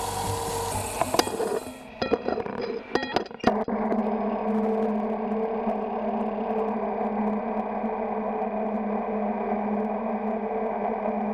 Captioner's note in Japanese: 聴診器の音